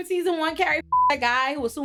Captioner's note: beep